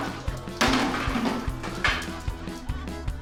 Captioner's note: cans clatter